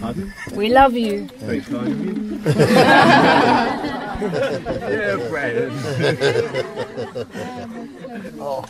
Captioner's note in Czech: smích